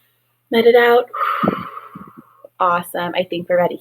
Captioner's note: exhales heavily